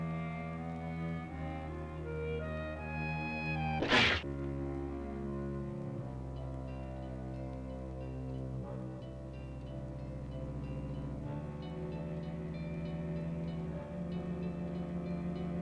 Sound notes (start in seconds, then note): 3.8 cat hisses; 4.6 suspenseful music